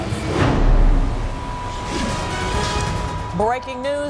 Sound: beeping noise

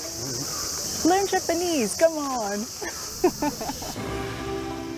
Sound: laughs

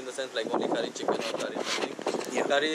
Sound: wind blows

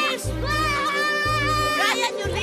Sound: Bryan screaming

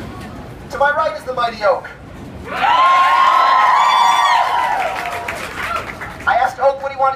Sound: cheers

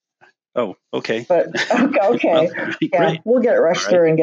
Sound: laughs

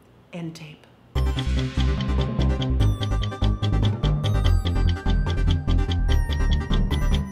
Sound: bouncy, melodic music; clock ticking

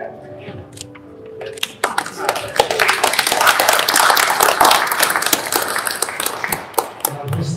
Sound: claps

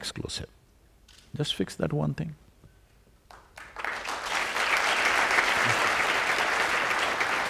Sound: applause

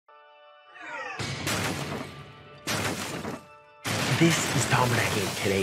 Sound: object crashing

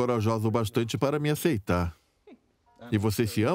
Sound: Diana laughs; voiceover

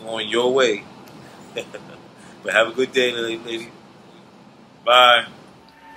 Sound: laughing

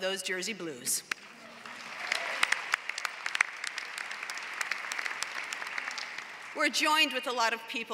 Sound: applause

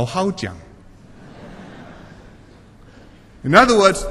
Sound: laughter

